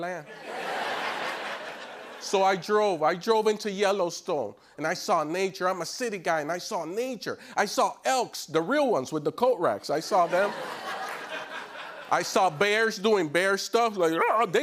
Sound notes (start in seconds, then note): 0.3 laughter; 10.1 laughter